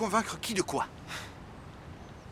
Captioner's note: sighs